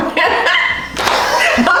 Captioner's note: laughter